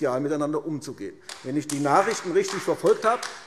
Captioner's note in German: Beifall AfD